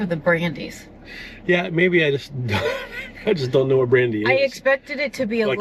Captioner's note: laughs